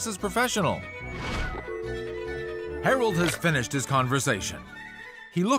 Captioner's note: dial tone